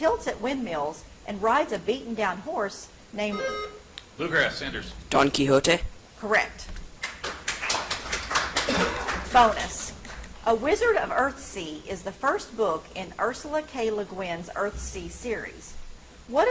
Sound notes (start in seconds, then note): 3.3 buzzer chimes; 7.0 audience applauds